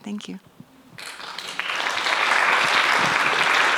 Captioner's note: applause